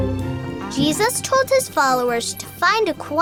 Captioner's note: voiceover